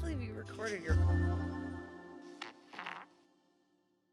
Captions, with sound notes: - Can't believe you recorded your... (recording farts)